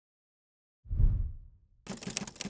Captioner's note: whooshing; typing